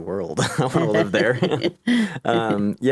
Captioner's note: laughing